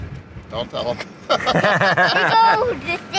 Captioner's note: both laughing